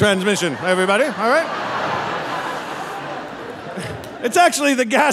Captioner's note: audience laughing